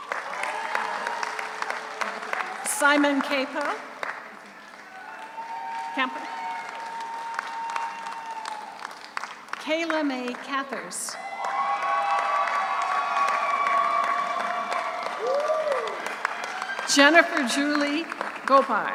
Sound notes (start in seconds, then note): 0.0 audience cheers; 0.2 audience applauds; 4.7 audience cheers; 11.1 audience applauds; 11.1 audience cheers